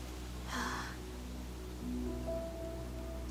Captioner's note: Aisen sighs